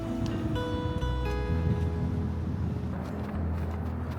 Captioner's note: windy